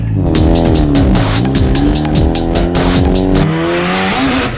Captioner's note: engine revs